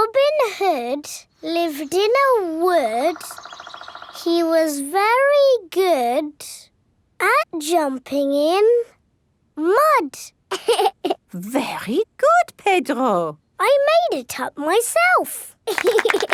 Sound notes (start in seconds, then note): 10.5 laughs